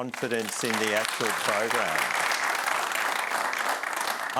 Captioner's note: applause